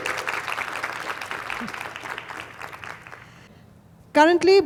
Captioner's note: applause, cheers